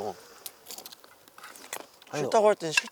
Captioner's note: munch munch